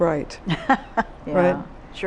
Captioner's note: laughs